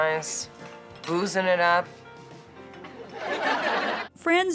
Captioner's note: studio audience laughs